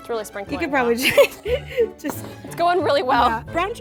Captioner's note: laughs